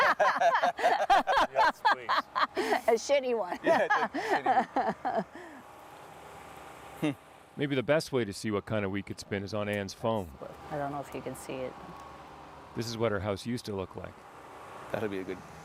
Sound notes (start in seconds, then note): 3.5 laughter